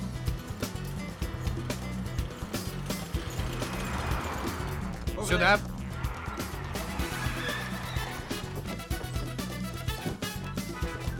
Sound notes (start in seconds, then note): 6.2 tires screeching